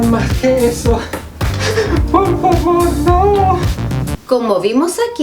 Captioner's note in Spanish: sollozando